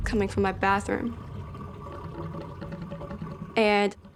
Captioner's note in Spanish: borboteo de agua